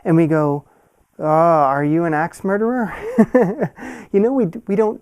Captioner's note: laughs